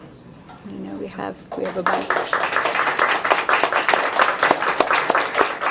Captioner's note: applause